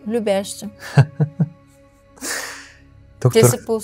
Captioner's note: laughter